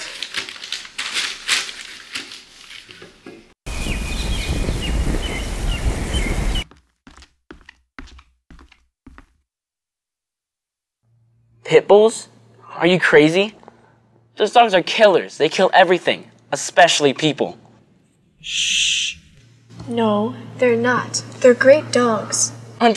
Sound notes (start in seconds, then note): 0.0 newspaper rustling; 3.7 birds chirping